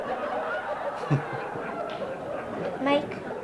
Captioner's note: chuckles